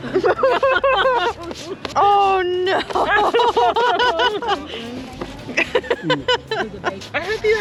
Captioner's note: laughter